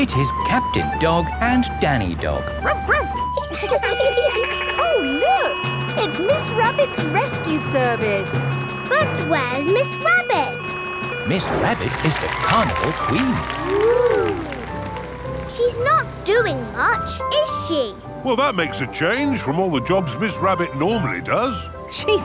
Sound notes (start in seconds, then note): 2.6 barks; 2.7 laughing; 3.7 sirens sounding